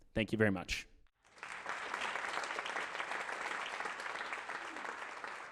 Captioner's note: applause